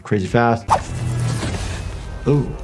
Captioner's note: air whooshing; lightning crashing